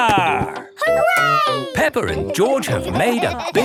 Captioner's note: laughing